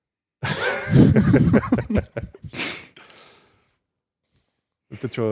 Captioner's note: laughs